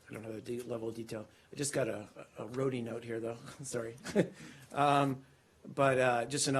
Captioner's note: laughter